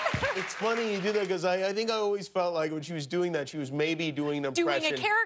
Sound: cheers and applause

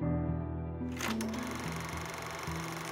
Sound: film reel rolling

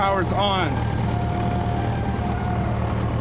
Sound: airplane hums

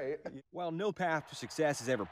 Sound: laughter

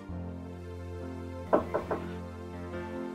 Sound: knocks on door

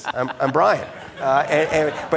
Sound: audience laughing

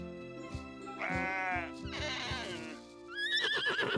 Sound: baaing; neighing

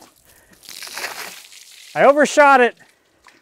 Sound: water splashing

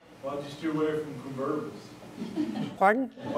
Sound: voiceover; audience laughs

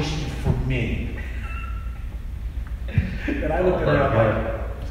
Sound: laughing

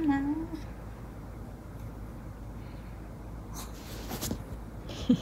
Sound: sniffing again

